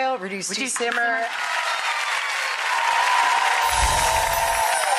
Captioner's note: audience applauds